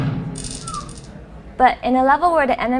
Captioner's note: audience whistle